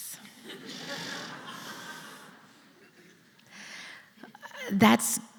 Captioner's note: laughter